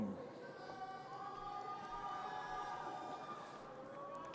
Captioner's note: audience cheers